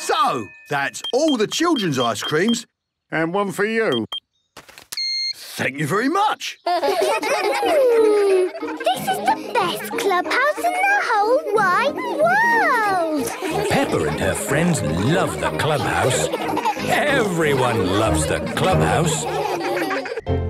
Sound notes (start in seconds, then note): 3.8 beeps; 7.1 children giggling; 19.6 all laughing